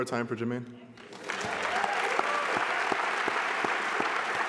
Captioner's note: applause